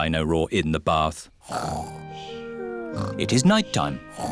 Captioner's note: snoring